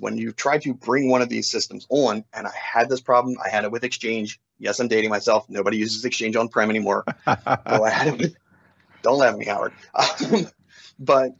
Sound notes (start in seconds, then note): 5.5 laughs; 10.7 laughs